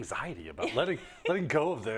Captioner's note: laugh